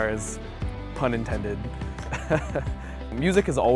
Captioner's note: laughs